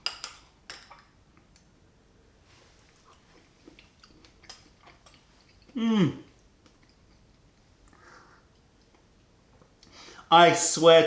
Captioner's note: sips tea; sips tea; chewing